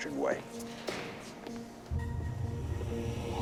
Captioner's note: footstep